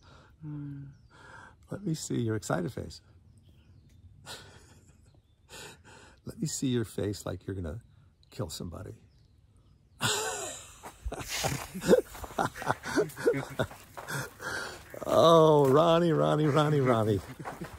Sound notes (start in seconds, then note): 4.3 laughing; 10.0 laughing; 11.6 Ron laughing